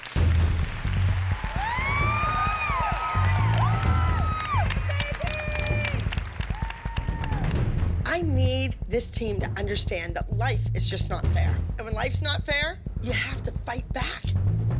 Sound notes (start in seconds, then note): 0.0 cheers and applause